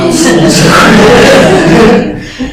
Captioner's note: laughter